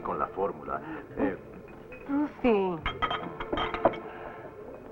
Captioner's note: dishes Clattering